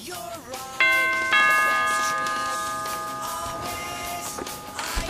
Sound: doorbell rings

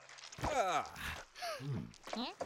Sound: Sema gasping

